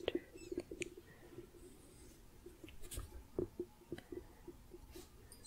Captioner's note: gentle tapping